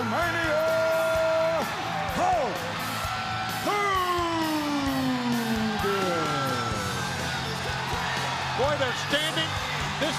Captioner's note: crowd cheering